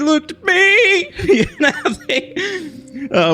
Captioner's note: laughs